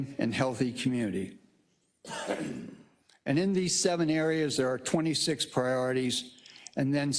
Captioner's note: cough